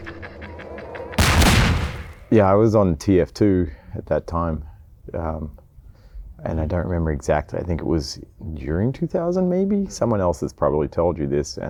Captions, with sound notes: (loud gunshot) - Yeah, I was on "TF 2" at that time and I don't remember exactly, I think it was during 2000 maybe? Someone else has probably told you this